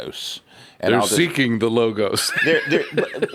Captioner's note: laughs